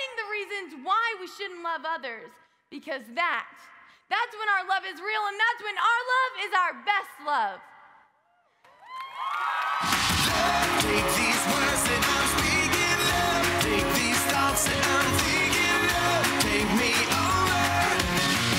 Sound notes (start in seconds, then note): 9.2 audience cheers